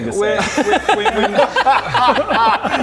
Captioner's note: rebellious laugh